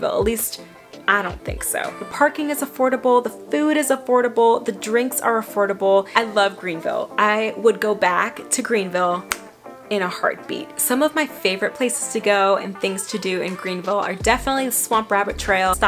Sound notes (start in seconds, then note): 9.2 snaps fingers